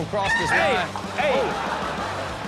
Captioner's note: chicken shrieks; puppy barks